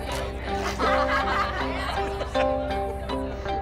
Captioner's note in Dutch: lacht